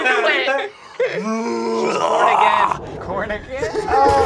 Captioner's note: roaring; squelching